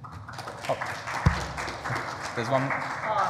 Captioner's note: audience clapping